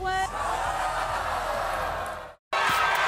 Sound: audience yells and boos

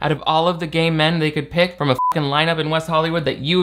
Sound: beep

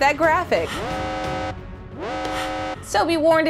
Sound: alarm

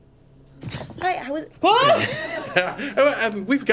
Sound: laughing

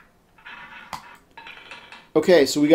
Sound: ball rolling

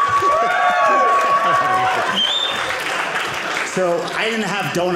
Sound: audience laughing; audience cheering

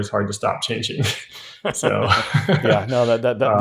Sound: both laughing

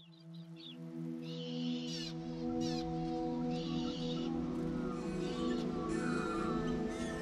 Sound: birds chirping as music swells

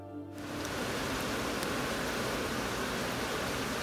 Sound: rain falling

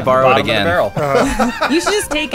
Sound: laughs

